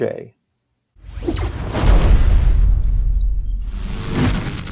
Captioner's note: graphic zapping